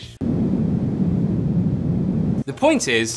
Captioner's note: wind blowing